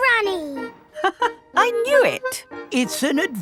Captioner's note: laughs